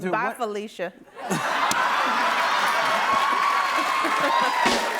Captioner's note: laughter; cheers and applause